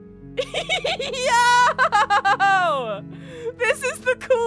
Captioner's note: laughing